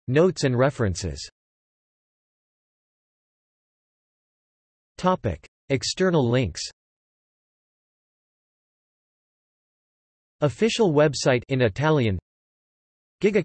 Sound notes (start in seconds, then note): 8.8 in Italian